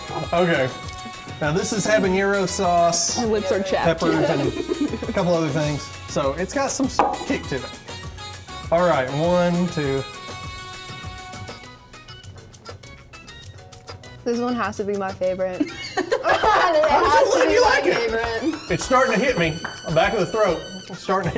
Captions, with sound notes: >>OK, now this is habanero sauce >>My lips are chapped >>peppers and a couple other things, so it's got some kick to it. Alright, one, two... >>This one has to be my favorite (laughter) It has to be my favorite >>You like it! It's starting to hit me, back of the throat.